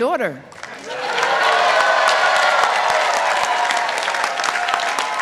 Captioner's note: participants applauding